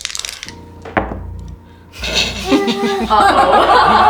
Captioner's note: muffled laughter